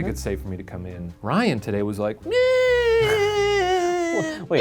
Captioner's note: whining